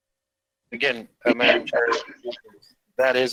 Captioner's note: speaks faintly